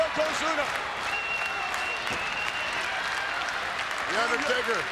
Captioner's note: audience applauds and cheers